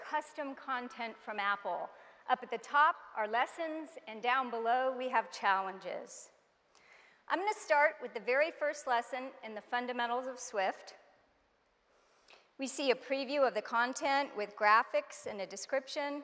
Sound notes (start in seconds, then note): none